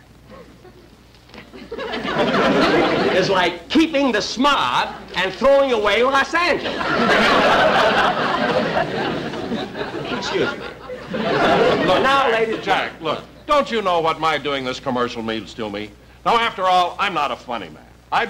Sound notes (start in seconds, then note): 0.2 audience Chuckling; 6.4 audience Laughing